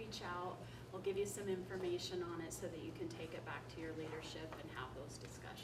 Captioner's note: none